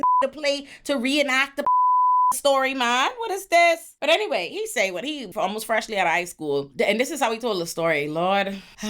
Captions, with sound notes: (beep) "to play to reenact the (beep) "story, ma, what is this?" But anyway, he say what he almost freshly at high school, and this is how he told the story, Lord.